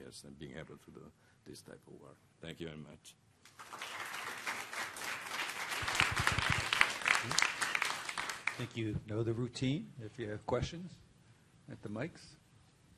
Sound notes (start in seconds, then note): 3.4 applause